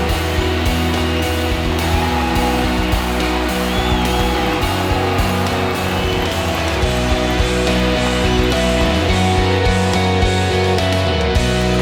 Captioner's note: applause; fans cheer and applaud